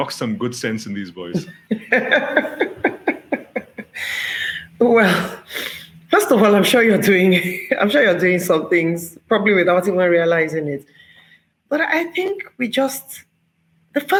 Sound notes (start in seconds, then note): 1.3 laughter